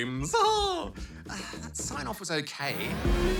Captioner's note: sighs